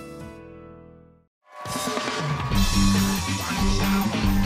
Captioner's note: cheers and applause